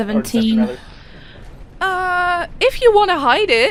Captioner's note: laughs